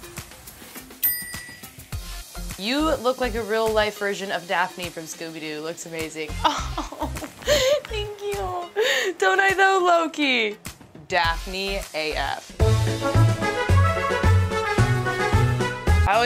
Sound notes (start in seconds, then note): 1.0 ding; 12.6 upbeat horn music